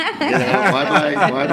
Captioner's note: laughs